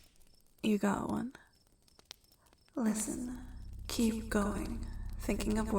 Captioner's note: echoing